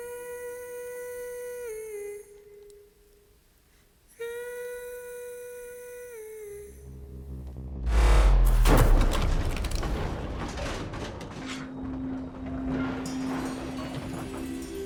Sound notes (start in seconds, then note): 7.6 thudding; 7.9 ominous whirring; 10.4 low rumbling